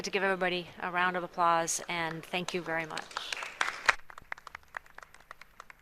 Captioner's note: applause